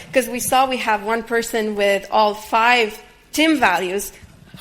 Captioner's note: none